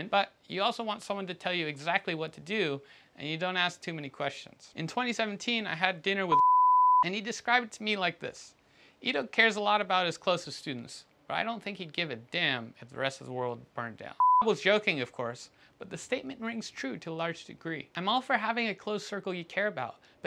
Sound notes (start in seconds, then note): 6.3 beep; 14.2 beep